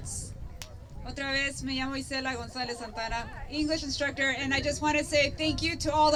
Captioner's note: spanish